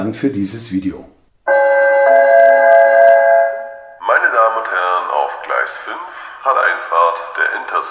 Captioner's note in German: Gong